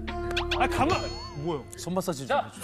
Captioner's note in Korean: 툭툭